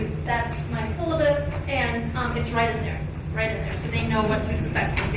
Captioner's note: none